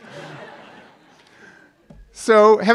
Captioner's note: laughs